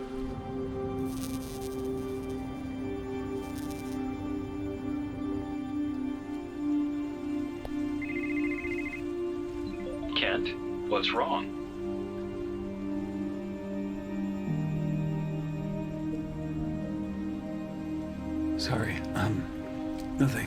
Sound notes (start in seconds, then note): 0.2 gentle music; 0.2 text buzzing; 7.9 cell phone ringing; 13.1 suspenseful music